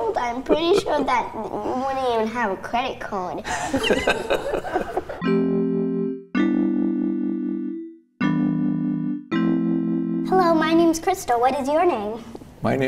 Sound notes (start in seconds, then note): 3.5 laughing; 5.2 soft music